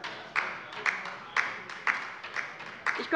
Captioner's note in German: Beifall bei der LINKEN